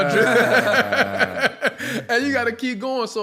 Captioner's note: laughter